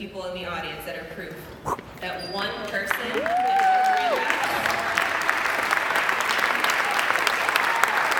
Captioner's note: applause